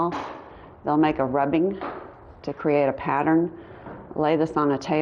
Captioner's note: none